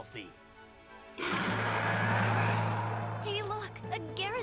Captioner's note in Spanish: agresivo